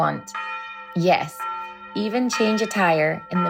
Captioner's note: church bells ringing